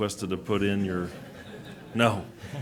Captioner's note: laughing